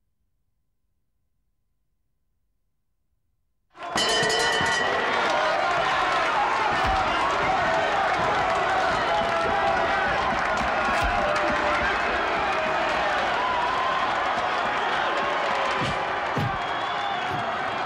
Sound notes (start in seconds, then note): 3.8 bell rings; 5.1 crowd cheer